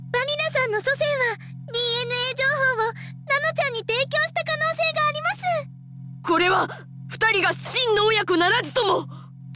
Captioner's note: none